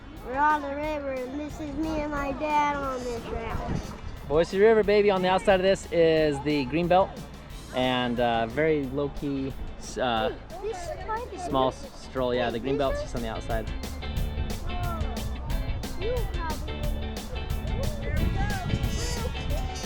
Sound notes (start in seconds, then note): 13.8 upbeat music; 15.4 people chattering